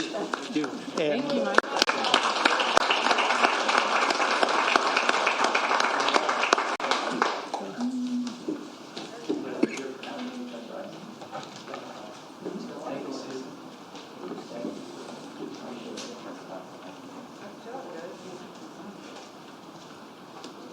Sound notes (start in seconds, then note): 5.0 applause